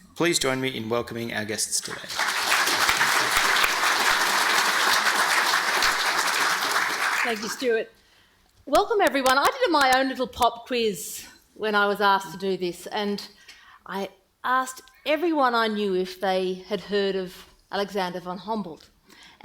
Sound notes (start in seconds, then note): 1.7 audience clapping